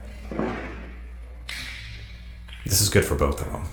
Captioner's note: smack